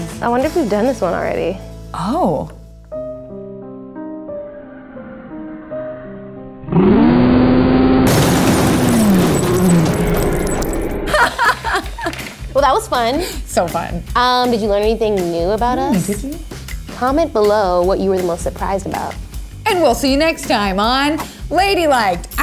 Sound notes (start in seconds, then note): 3.2 piano music; 6.7 screaming; 8.0 crashing; 11.0 laughing